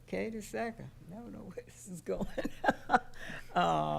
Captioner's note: laughing